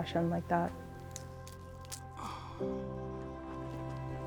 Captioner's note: pod cracking